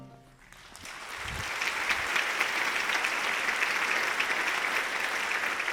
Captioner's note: audience applauding